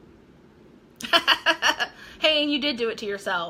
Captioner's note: laughing